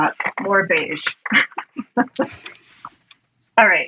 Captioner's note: laughs